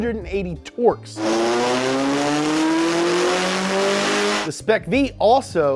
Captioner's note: engine revving